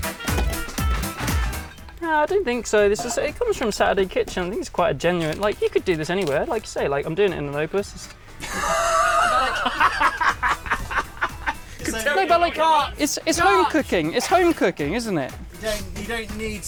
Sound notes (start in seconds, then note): 11.2 all laugh derisively